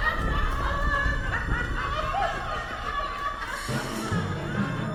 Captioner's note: laughter; somber music